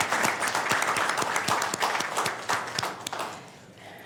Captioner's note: applause